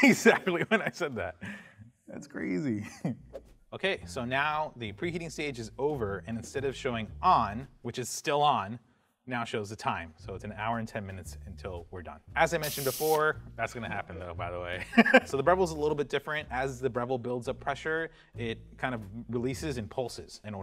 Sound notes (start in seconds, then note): 1.6 laughs; 14.9 laughs